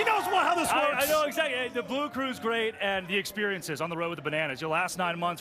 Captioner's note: cheers and applause